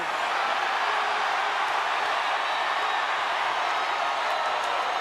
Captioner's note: crowd cheers